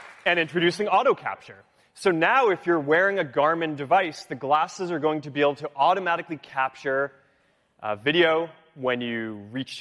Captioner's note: applause